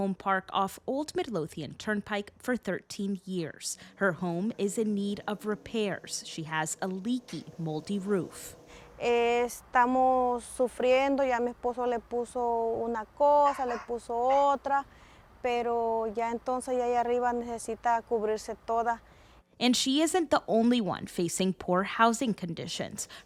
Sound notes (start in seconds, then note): 10.5 speaking Spanish